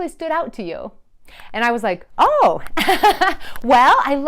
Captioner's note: laughs awkwardly